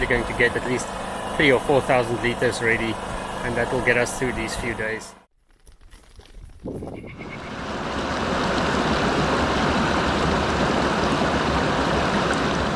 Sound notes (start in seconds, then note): 5.4 running bokkies